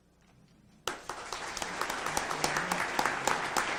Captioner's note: audience applauds